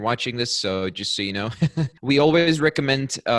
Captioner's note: laughs